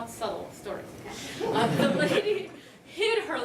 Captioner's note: laughter